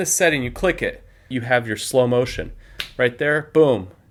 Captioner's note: clap